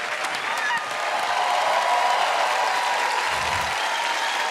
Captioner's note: applause; cheers and applause